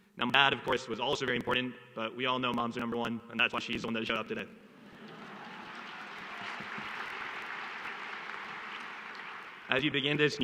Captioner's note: applause